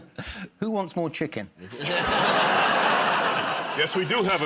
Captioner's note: audience groans; laughs; chuckles